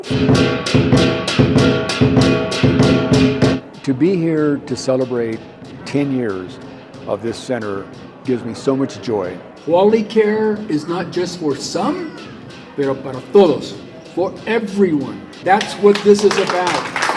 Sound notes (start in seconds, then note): 0.3 rhythmic percussion music; 12.9 speaking in a foreign language; 17.0 group applauding